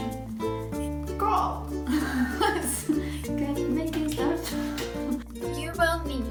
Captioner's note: laughs